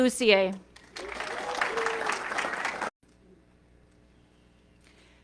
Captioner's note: audience clapping